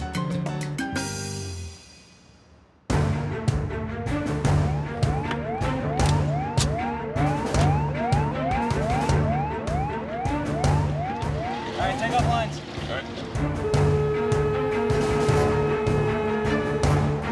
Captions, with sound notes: (intense music) (sirens) - Alright, take off lines. - Alright. (horn honking)